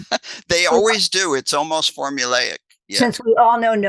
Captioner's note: laughs